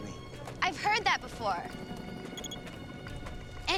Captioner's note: helicopter blades whirring